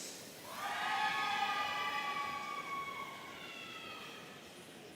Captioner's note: audience cheering